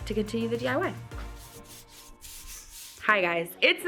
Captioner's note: paint roller swishing